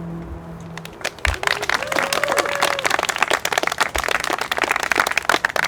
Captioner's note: applause